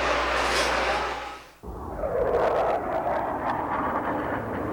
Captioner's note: jets roar